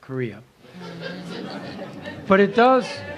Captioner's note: laughter